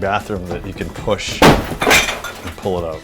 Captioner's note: crashing sound